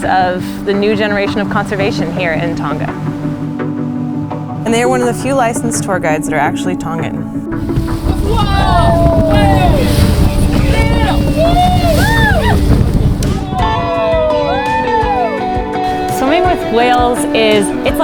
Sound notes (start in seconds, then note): 8.1 people cheering; 14.9 gentle music